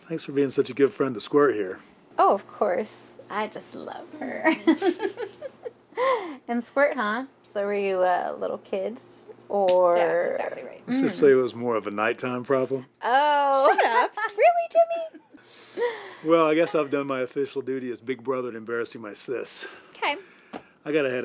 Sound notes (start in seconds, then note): 4.5 chuckles